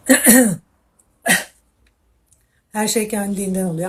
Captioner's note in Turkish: boğazını temizler